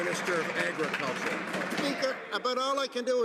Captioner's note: some Applause